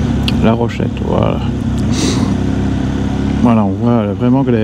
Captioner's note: engine